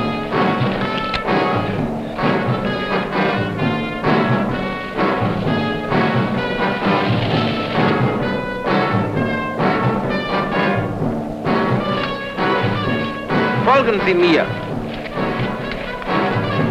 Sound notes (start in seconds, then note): 13.5 German spoken audio